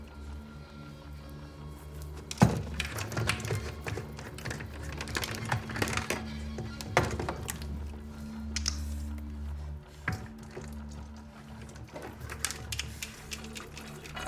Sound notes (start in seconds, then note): 2.5 bottle thuds; 3.3 bottle clattering; 8.7 lid clanking; 9.8 liquid sloshing